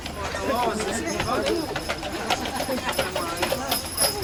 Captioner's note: people chattering